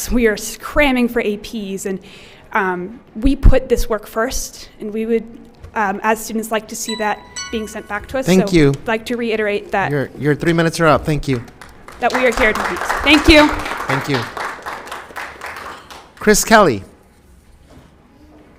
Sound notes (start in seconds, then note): 6.8 timer chimes; 11.2 applause